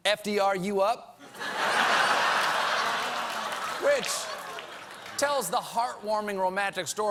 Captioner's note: laughter